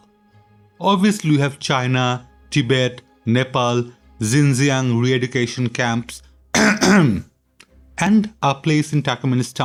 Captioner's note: cough cough